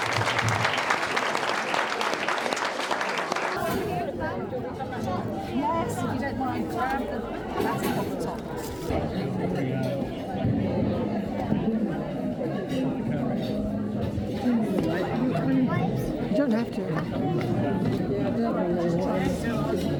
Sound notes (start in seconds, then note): 1.0 audience chattering